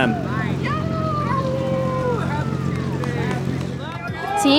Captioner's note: howling excitedly